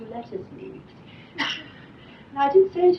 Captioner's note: laughs